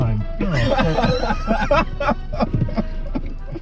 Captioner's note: laughing